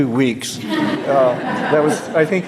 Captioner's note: laughter